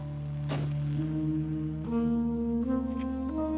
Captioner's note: door slamming; somber music